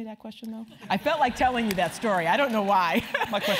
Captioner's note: laugh